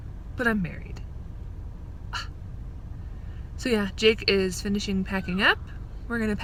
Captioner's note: scoff